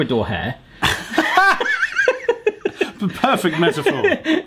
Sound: they laugh

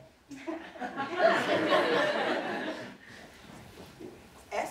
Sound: audience laughing

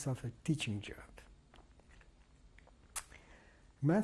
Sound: pauses for 3 seconds

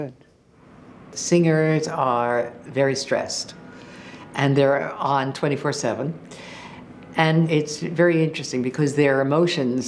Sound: narrating

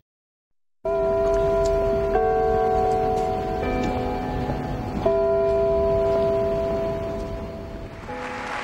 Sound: bell chime; applause

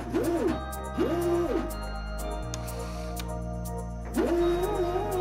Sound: robot arm whirring

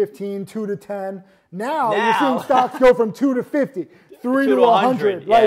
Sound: laughs

